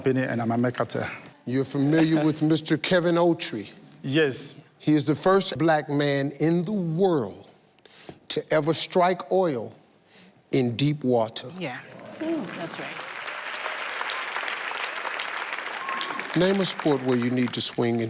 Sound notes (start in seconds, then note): 11.9 audience applause